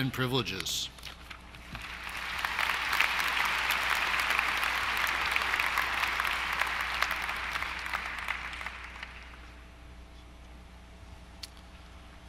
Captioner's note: applause